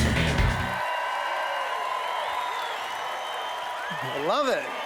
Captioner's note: cheers